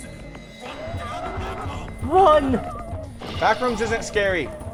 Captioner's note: people chattering